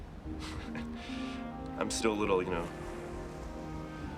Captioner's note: laughs